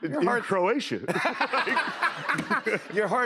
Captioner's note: laughter